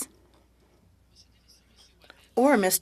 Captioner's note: speaking French